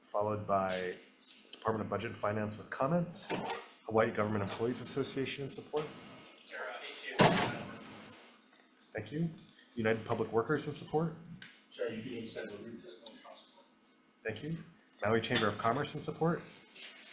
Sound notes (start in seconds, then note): 7.5 door bangs